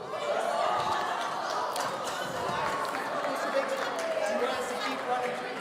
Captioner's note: audience conversing excitedly